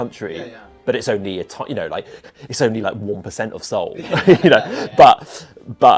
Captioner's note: laughs